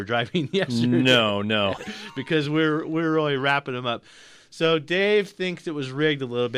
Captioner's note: laughs